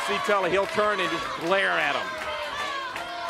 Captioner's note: crowd cheering